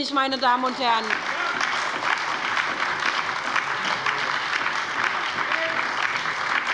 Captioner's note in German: Lebhafter Beifall bei der SPD und der LINKEN